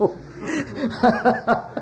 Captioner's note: laughs; laughter